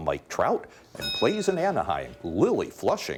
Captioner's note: bell dinging